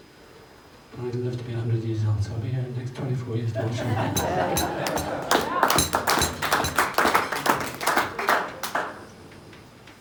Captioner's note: cheers and applause